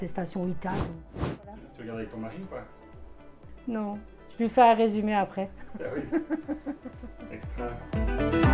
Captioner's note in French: rire